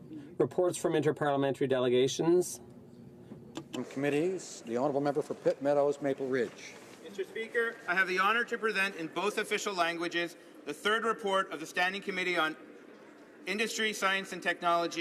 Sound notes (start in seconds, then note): none